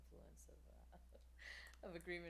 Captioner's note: laughs